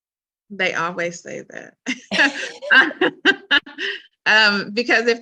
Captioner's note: laughter